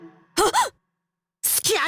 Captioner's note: gasp